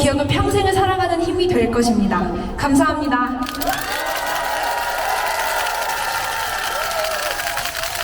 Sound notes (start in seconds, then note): 4.9 clap